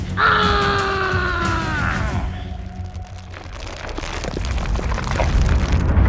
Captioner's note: dramatic drum music; screams